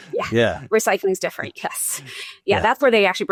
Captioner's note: chuckles